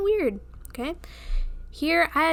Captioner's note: inhale